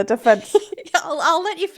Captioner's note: laughing